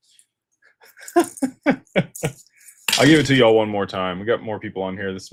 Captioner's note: laughter